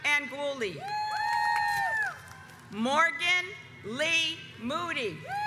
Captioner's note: audience cheers